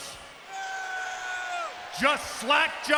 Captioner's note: audience booing